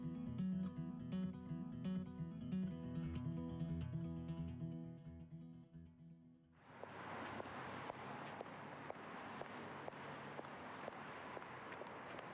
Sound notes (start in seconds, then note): 6.7 car engine revving